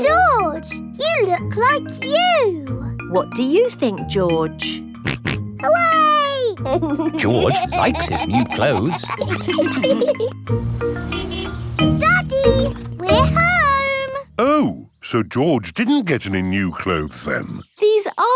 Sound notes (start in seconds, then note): 6.6 snorts and laughs; 10.6 horn honks